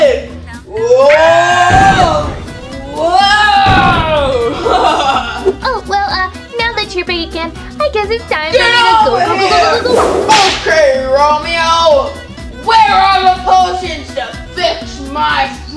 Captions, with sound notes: Whoa, whoa. (laughs) - Oh, well, uh, now that you're big again, I guess it's time for me to go, go, go, go- - Get over here! (whip cracks) Okay, Romeo, where are potions to fix my friends?